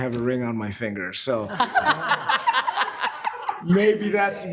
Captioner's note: presenters laughs